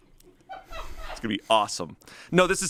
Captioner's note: crew laughs